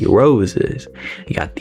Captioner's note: inhales Oxygen